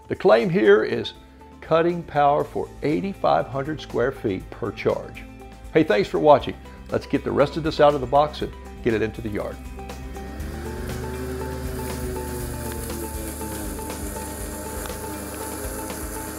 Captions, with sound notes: The claim here is cutting power for 8500 square feet per charge. Hey, thanks for watching. Let's get the rest of this out of the box and get it into the yard. (lawnmower buzzes) (bright, bouncy music)